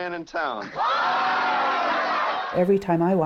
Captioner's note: cheering